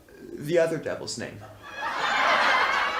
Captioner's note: laughter